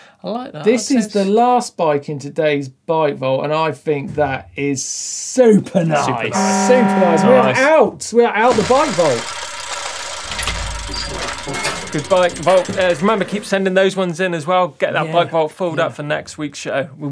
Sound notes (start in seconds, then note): 6.2 horn blares; 8.4 gears ratcheting